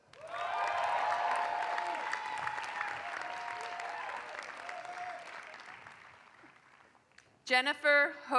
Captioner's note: applause